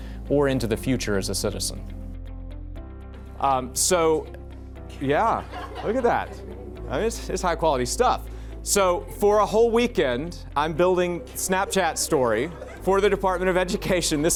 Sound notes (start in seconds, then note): 5.0 students laugh